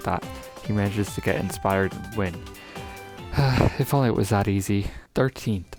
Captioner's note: sigh